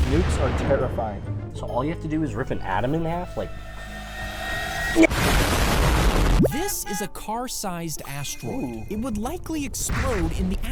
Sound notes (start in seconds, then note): 1.0 explosion booming; 4.1 dramatic music; 4.1 explosion booming